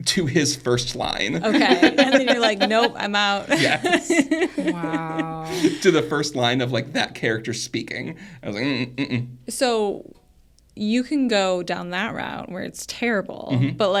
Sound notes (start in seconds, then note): 1.4 laughs; 4.0 co-hosts laughing